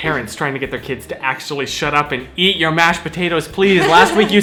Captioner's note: laughs